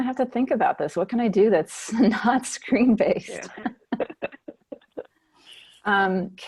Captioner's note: laughing